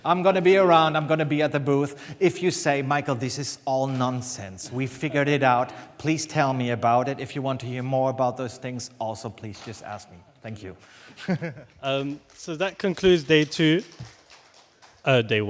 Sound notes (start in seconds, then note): 11.1 laughs; 13.8 applause